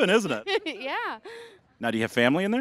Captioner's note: giggling